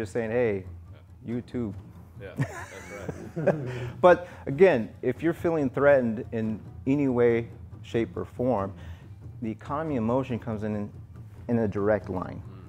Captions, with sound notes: saying hey you two... (laughter) But again, if you're feeling threatened in any way, shape or form the economy of motion comes in a direct line.